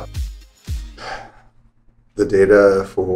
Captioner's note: sighs